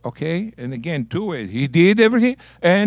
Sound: speaking in Hebrew

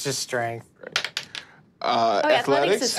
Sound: dice clatters

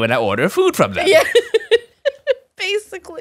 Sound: laughing

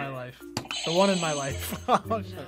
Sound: buzzer rings; buzzer; laughs

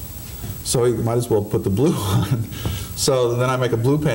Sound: laughing

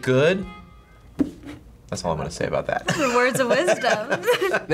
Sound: laughs

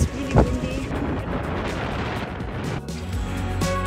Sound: wind

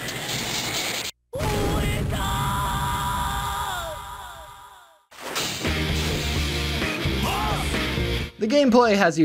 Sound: Character yells "OUENDAN!"

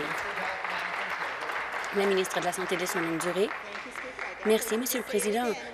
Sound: applause

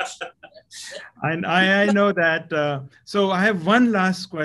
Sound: laugh

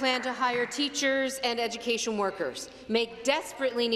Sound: applause

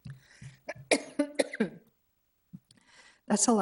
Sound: coughing

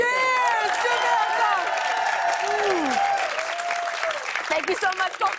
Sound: cheers and applause

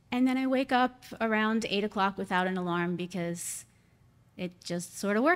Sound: none

